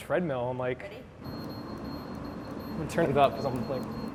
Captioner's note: treadmill beeping